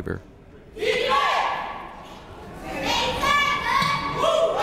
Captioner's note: players chanting